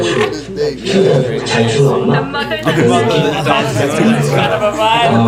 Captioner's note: giggles